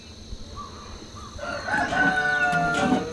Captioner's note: rooster crowing